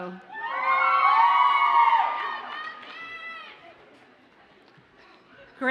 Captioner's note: audience cheers and applauds